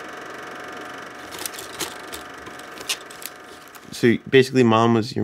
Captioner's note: film cracking